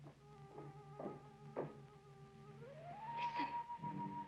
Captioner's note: footsteps tapping